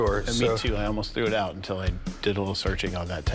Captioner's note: laughs